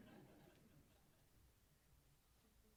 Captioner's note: chuckling